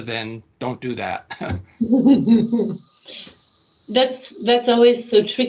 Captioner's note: laughing